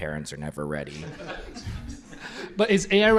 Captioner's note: laughter